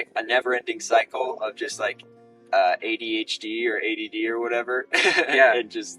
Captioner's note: laughs